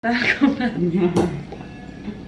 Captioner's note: laughs